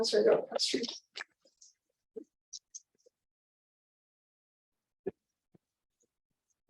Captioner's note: silence